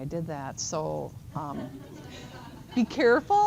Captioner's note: laughter